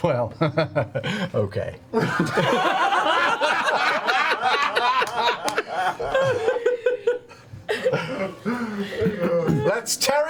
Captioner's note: all laugh